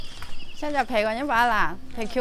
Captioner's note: Jino language